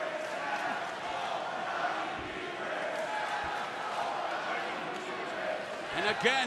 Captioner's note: crowd cheering